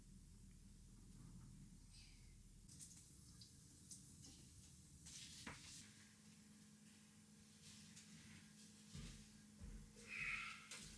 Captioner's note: footsteps